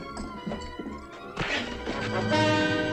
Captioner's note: punch